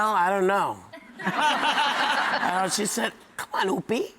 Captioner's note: audience laughing